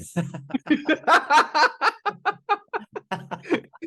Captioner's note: laughing